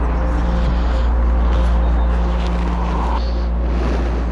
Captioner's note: engine revving